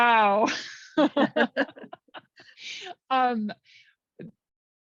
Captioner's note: laughing